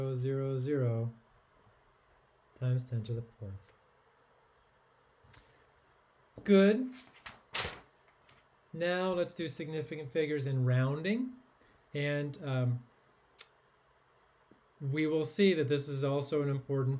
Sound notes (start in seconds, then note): 6.8 paper rustling